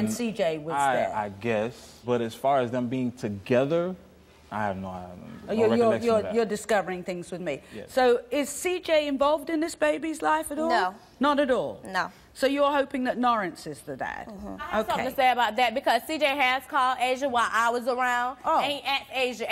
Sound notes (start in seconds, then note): none